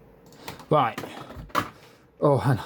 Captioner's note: gaming mouse noises